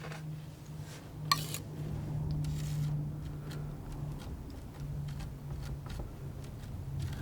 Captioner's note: scraping